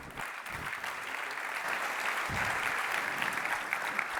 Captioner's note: applause